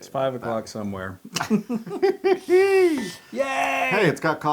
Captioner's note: laugh